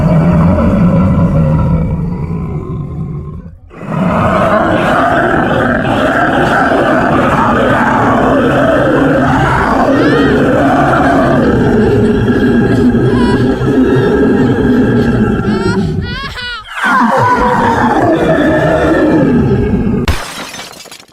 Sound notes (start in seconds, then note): 0.1 beast growl; 7.2 bear roar; 7.8 woman screaming; 17.9 bear roar; 19.9 metal crackling